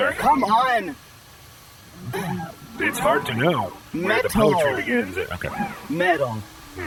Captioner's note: clears throat; enunciating angrily